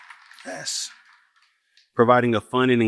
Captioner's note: applause